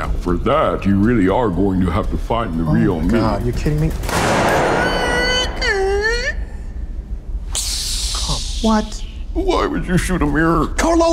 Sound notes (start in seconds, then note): 4.0 gun firing; 4.6 Carlo squeaks